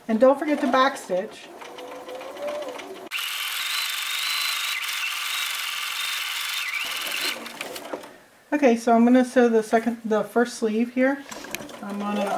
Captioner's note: fast forwarding stitching sounds